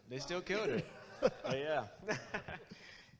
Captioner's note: audience laughs